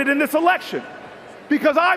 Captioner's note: cheers and Applause